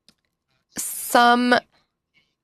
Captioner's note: speaking French